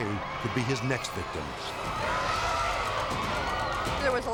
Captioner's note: people screaming